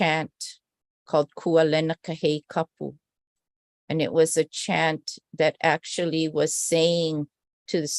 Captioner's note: non-english speech